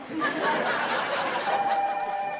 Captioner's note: telephone rings